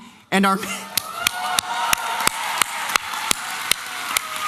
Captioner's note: applause and cheering